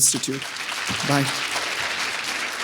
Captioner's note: audience applauding